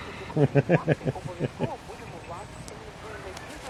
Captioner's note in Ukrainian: сміється